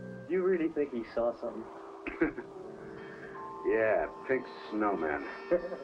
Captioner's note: laughs